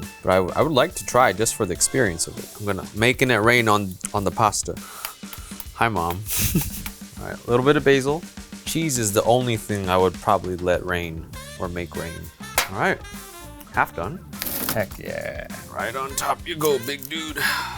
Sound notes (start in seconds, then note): 6.2 laughs